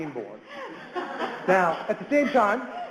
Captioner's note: audience laughs